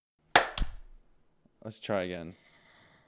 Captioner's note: clapping